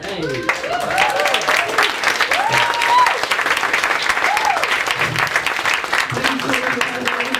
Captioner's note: laughter and Claps